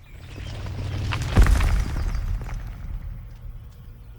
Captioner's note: earth rumbling